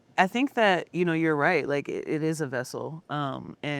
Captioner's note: none